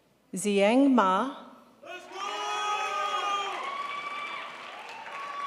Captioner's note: crowd applauds